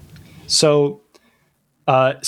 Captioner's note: uh